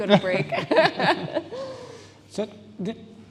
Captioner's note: laughs